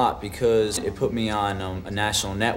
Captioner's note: none